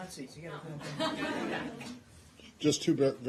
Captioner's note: laughter